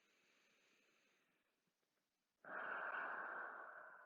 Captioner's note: breathes deeply